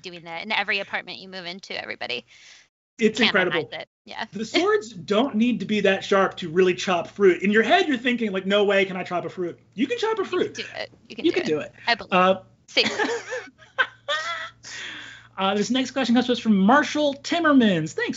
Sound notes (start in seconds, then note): 3.7 overlapping chattering; 11.0 laughs; 13.4 overlapping chattering